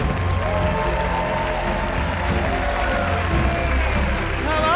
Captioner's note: audience cheers and applauds